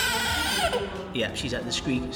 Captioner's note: baby crying